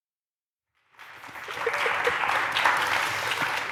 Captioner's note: applause